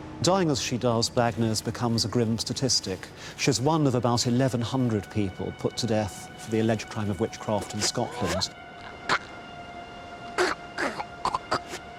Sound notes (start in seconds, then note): 7.6 rope tightens; 8.8 Agnes chokes